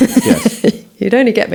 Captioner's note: laughs